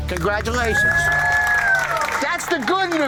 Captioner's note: applause